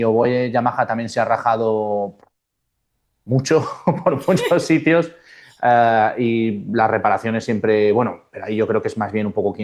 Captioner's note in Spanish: risas